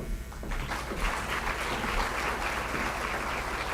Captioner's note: applause